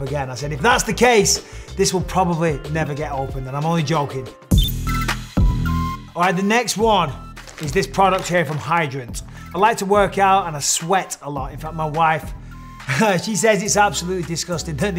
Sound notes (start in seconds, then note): 4.6 bright hip hop music; 4.6 graphic blips